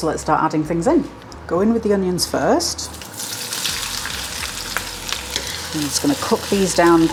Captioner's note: sizzle